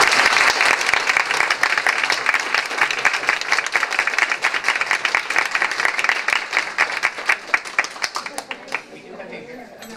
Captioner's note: applause